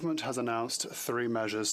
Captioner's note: speaking French